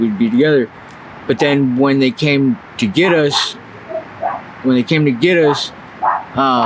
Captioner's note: dog barks